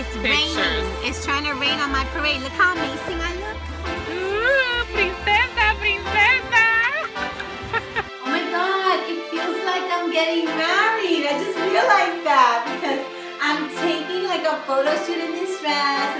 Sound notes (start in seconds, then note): 6.2 laughing